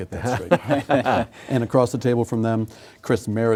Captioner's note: laughing